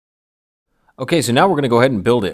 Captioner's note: voiceover